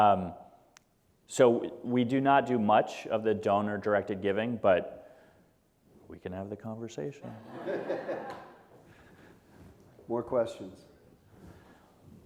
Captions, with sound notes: So we do not do much of the donor-directed giving, but we can have a conversation. (audience chuckling) - More questions?